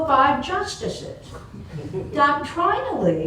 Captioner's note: laughter